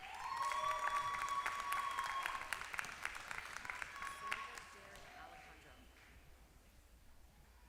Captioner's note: applause